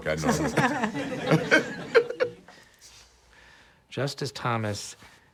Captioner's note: group laughing